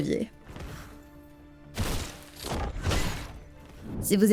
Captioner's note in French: bruits de combat